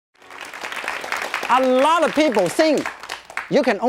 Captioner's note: audience clapping